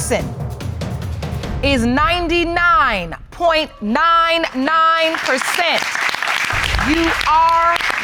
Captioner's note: audience applauds